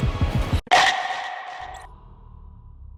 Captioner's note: chormp